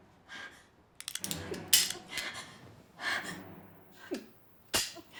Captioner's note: gun clicking